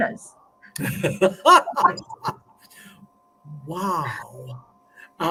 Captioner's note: laughter